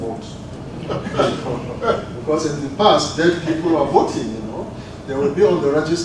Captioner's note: laugh